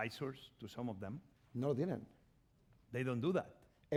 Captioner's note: speaking spanish